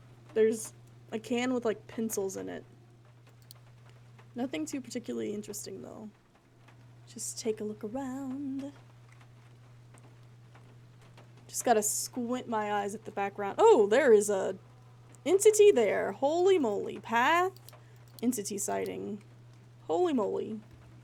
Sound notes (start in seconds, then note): 6.9 sing-song